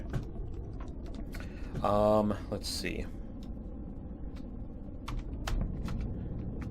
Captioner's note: keystrokes